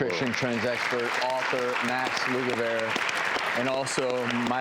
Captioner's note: audience applause